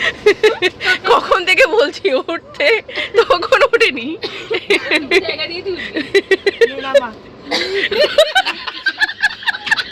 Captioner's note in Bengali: সশব্দ হাসি